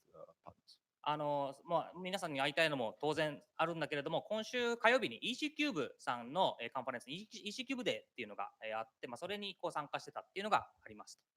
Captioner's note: speaking japanese